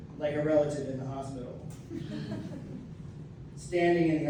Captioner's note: laughter